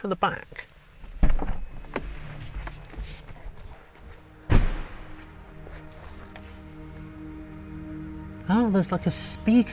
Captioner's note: exterior EV Ambient Sound